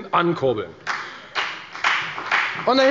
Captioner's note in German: Beifall bei der FDP